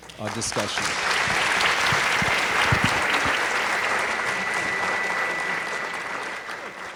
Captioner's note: audience applauds